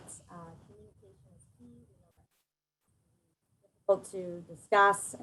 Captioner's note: distorted audio